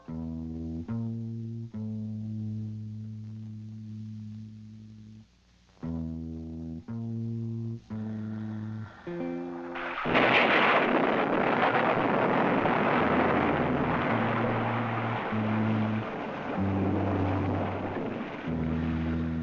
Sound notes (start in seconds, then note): 0.0 gentle instrumental music; 9.9 thunder rumbling